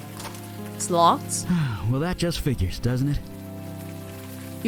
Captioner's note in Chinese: 嘆氣